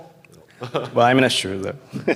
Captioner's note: laughter